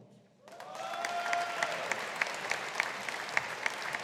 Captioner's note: audience applauding